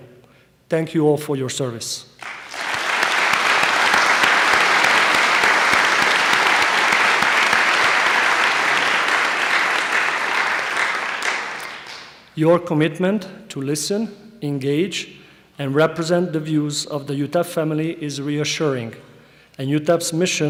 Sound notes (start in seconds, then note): 2.2 applause